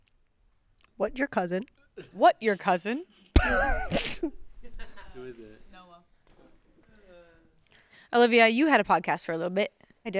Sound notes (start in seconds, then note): 3.4 chuckles